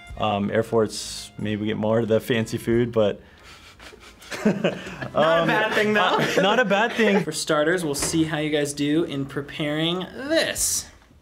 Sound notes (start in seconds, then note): 3.5 chuckles